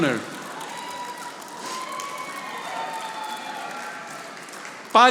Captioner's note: audience applauding